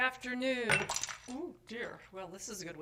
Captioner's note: shatter noise